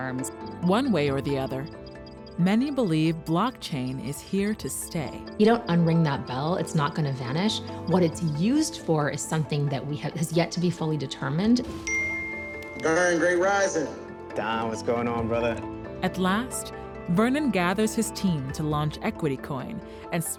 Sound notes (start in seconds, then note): 11.8 phone chimes; 12.7 on phone